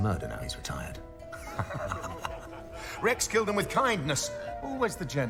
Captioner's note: laughs